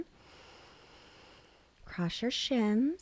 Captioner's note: inhales